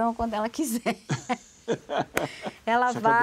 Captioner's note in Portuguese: Risos